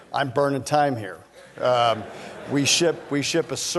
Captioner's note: laughter